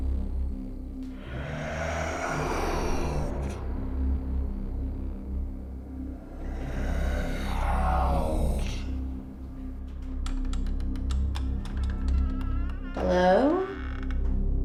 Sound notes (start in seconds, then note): 0.8 ghostly moans; 11.1 door creaking